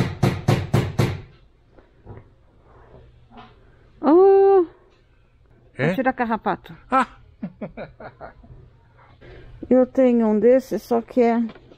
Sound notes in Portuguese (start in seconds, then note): 7.4 risos